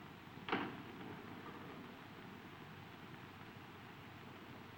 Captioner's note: door latching